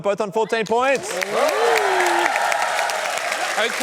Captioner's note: cheering, applause